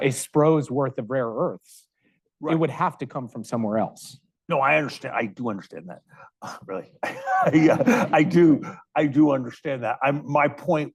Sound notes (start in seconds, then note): 7.0 chuckling